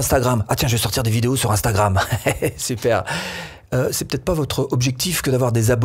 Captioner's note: laughs